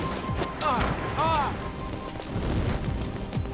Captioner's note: grunting